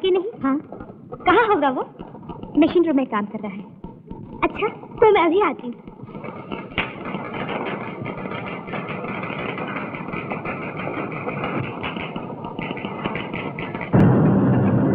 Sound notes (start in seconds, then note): 6.2 typewriter keytop clacking